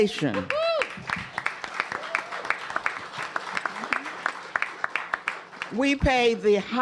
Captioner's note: cheers and applause